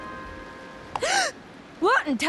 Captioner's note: gasps